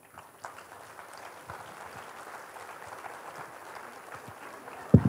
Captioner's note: Applaus